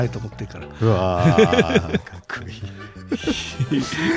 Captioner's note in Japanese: 笑い